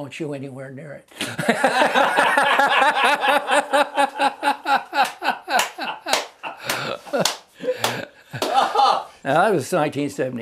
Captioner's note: loud Laughter and clapping